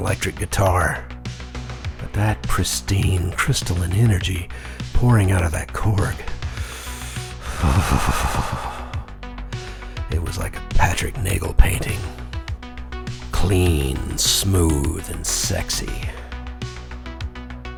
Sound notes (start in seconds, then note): 6.0 shudder